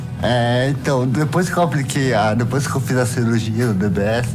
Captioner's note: speaking foreign language